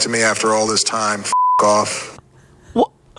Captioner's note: beep